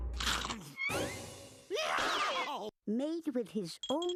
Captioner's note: scrunching; screaming